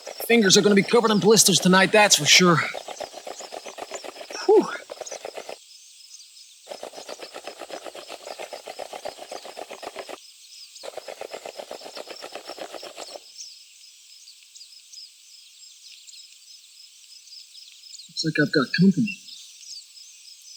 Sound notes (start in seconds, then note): 2.8 wood scratching; 6.6 wood scratching and rattling; 14.0 birds chirping